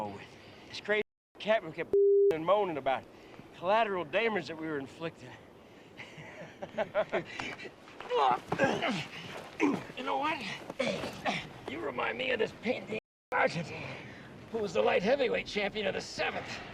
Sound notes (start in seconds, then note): 6.0 chuckles, Grunts; 8.2 grunts